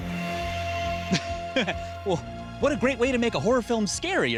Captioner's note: laughs